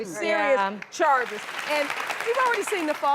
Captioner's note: applause